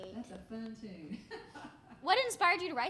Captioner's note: laughing